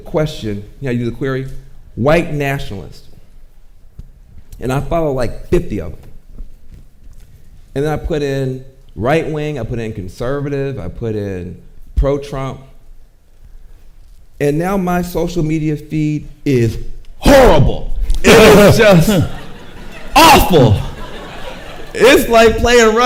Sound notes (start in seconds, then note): 18.8 and audience chuckles